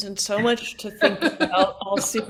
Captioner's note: laughing